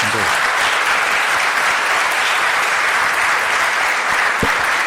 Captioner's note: crowd applauds